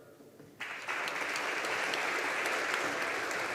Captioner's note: audience applauding